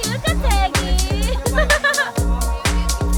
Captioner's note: laughing